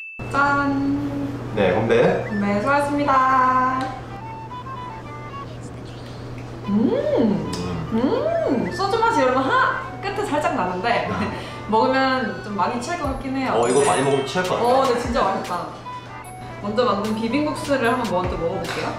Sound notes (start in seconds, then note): 4.3 gulp